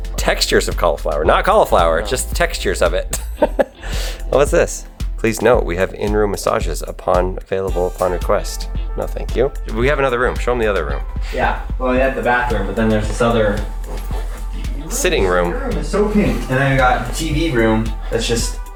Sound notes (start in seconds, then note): 3.2 laughs